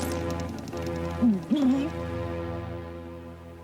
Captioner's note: gulp